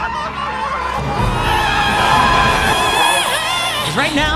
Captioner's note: screams! Horror!